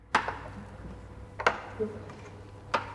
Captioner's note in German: Knarzen